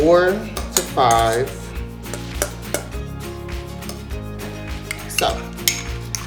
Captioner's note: tongs hitting against bowl